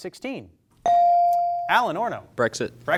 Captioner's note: bell sounding